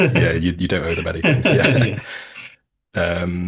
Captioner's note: chuckles